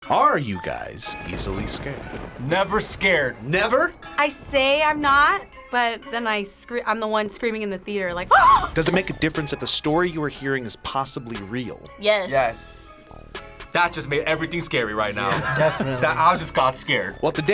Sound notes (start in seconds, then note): 8.3 screams